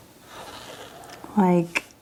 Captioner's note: marker squeaking